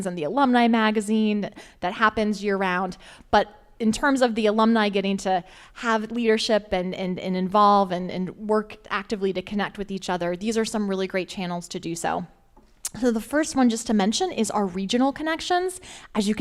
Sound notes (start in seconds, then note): none